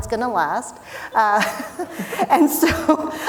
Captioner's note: laughing